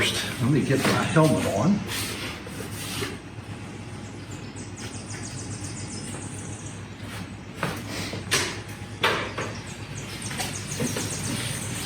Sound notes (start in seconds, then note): 3.4 birds singing; 7.6 shuffling sounds